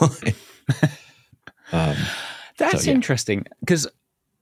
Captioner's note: laughs